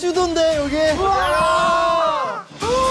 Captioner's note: argh!